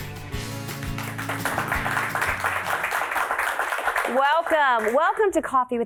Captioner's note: audidemo clapping